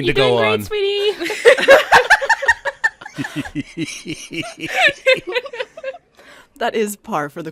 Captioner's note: all cracking up